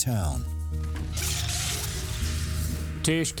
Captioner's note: sharp whirring